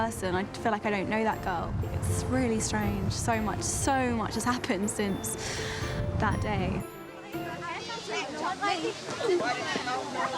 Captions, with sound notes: I feel like I don't know that girl. It's really strange. So much-- So much has happened since that day. [KIDS CHATTERING]